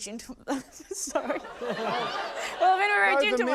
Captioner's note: laughter; laughs